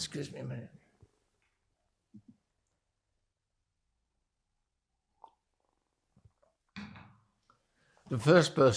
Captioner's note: drinking